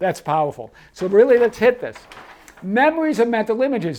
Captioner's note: paper rustles